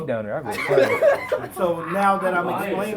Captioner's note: laughs